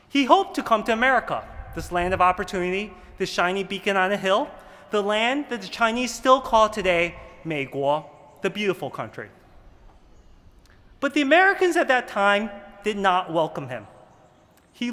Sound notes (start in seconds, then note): 7.4 speaking mandarin